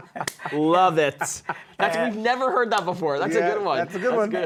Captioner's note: laughing